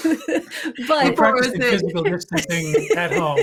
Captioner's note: laughing